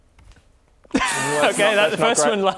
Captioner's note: unimpressed scoffs